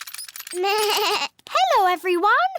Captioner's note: bleats